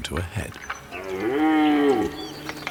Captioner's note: deer roars